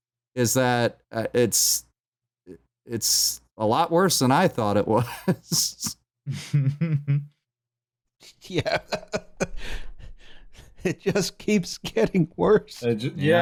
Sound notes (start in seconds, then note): 6.3 chuckles; 8.3 laughing